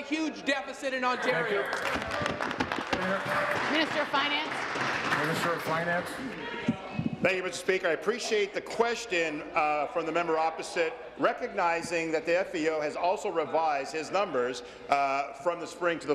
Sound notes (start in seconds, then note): 4.8 applause